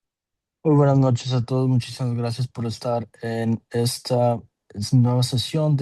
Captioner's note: interpreter speaking Spanish